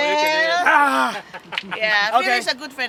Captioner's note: loud groan